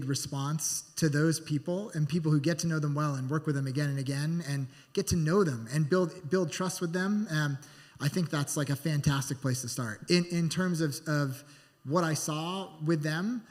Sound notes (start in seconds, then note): none